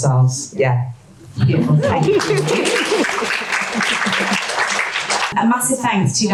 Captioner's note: audience applause